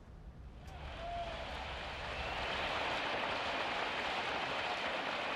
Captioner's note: recorded audience claps